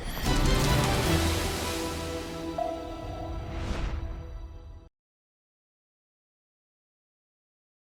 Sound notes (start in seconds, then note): 0.0 fanfare; 2.4 crashing waves